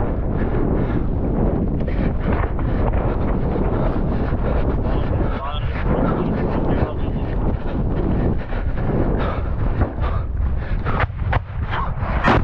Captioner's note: panting